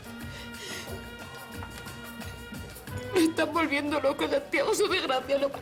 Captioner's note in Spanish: El llanto la ahoga